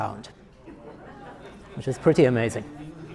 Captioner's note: audience laughter